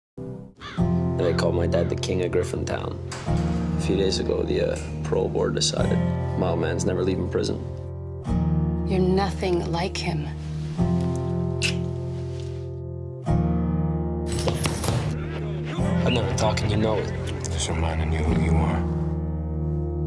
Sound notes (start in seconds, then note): 14.4 fists pound punching bag